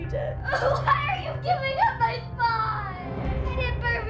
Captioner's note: sobs